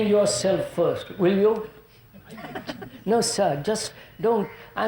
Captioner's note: laughter